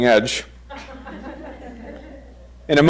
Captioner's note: crowd chuckles